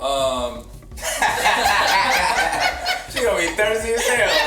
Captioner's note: group laughs